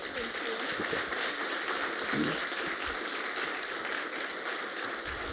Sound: applause

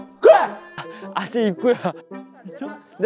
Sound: yawning

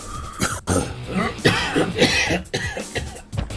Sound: cough

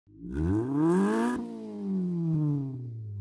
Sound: engine revs

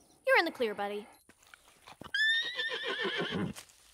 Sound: horse whinnies

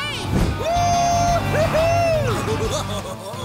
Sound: cheering

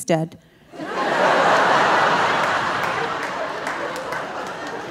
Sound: audience laughing

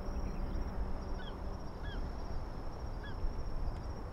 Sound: birds chirping

